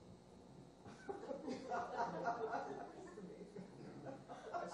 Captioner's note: laughter